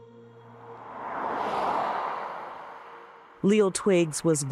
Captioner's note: traffic sounds